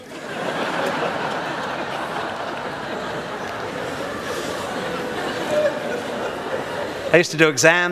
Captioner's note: audience laughs